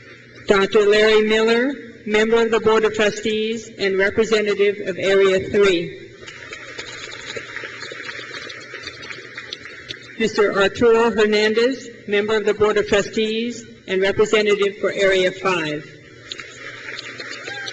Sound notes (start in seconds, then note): 6.2 crowd claps; 16.3 crowd claps